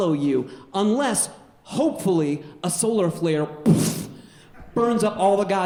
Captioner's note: puffs